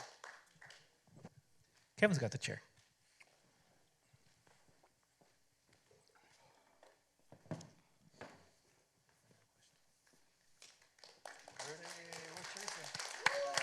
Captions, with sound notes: Kevin's got the chair. [silence] [applause] -Rudy's here. Where's Teresa?